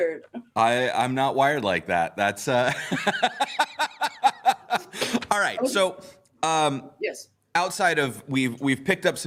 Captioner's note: laughs